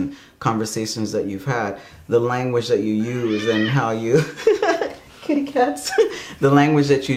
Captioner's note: cat meowing